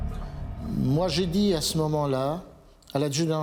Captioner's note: speaking French